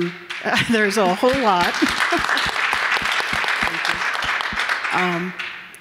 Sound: audience clapping

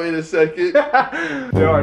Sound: laughter

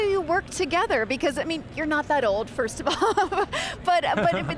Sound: laughs

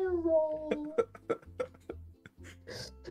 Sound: laughing

